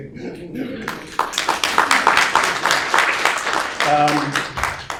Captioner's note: audience clapping